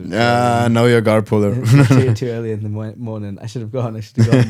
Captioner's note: laughs; laughing